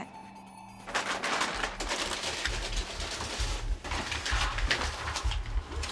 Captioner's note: clattering